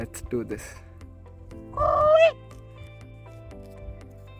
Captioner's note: tries weird bird noise